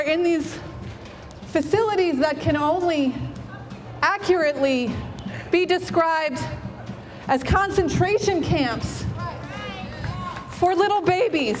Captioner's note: applause